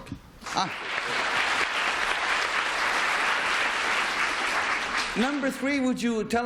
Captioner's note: applause